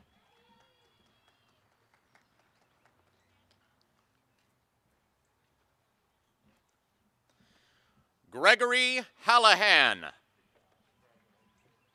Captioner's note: applause and cheering